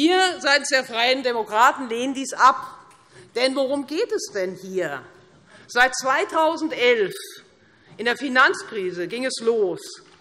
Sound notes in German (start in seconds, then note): none